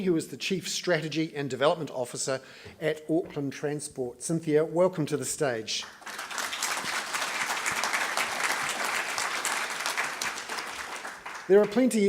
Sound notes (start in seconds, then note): 5.8 applause